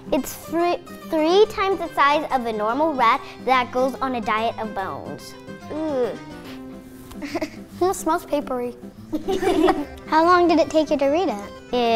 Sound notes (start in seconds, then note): 6.3 sniffing; 9.1 laughing